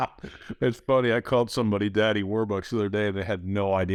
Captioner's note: laughs